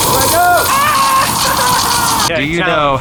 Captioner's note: blow torch blazing; screams